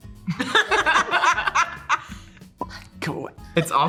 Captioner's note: laugh; laughs